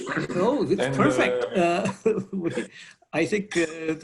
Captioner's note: laughs